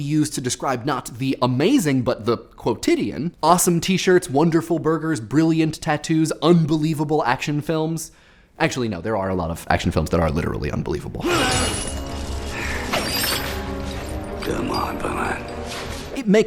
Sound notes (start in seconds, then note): 11.4 grunts; 12.3 rattles